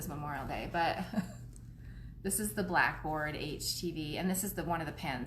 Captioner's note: laughs